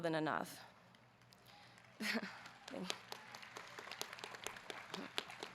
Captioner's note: audience clapping